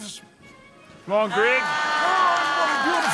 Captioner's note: applause